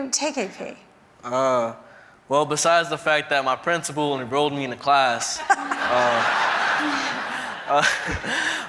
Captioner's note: laughter